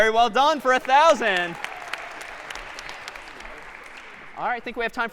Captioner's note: applause